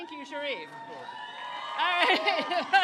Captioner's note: crowd cheers